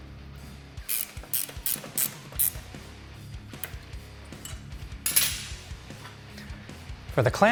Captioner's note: tool clicking; upbeat rock music